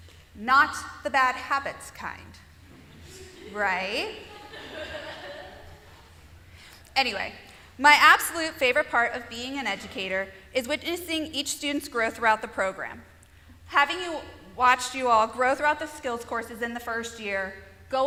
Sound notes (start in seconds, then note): 3.9 laughter